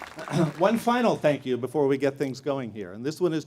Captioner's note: applause